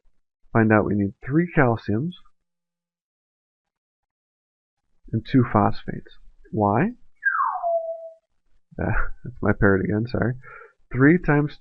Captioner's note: bird noise